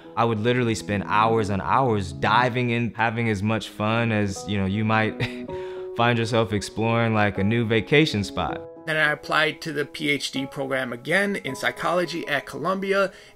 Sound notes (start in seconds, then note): 5.2 chuckles